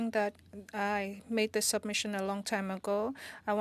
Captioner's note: speaking French